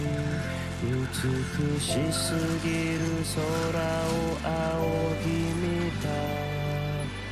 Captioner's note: groans, breathes shallowly; breathes slowly